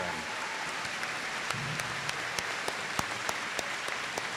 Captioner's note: applause